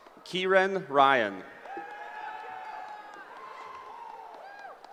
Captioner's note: cheering